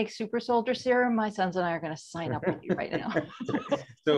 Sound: laughs; laughing

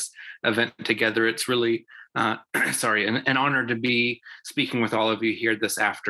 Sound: coughs

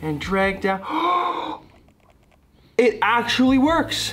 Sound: gasps

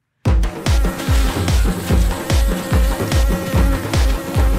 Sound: bees buzzing

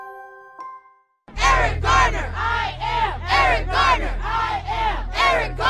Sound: crowd

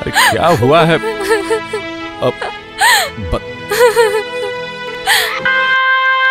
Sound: crying

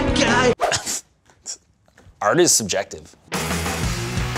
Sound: scoffs

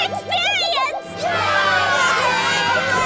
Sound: cheering

